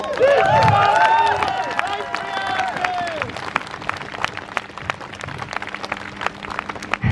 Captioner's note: crowd Cheers